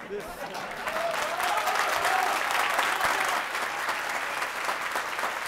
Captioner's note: applause